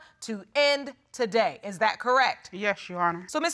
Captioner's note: none